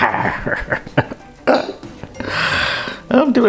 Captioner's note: laughs